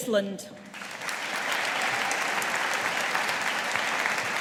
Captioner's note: audience applauding